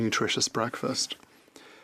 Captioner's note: speaking French